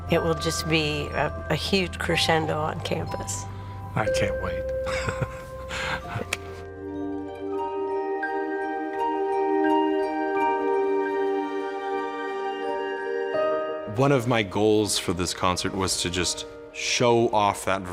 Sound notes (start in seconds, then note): 4.8 chuckles; 7.2 peaceful music